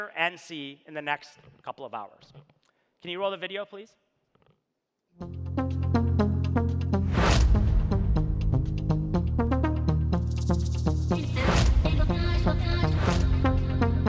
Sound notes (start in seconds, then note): 5.2 upbeat music; 5.8 rapid swipes